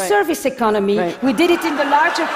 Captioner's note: Laughter; 笑聲